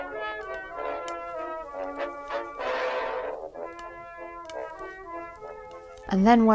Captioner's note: needles clicking